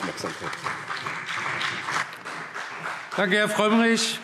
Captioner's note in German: Beifall BÜNDNIS 90/DIE GRÜNEN und CDU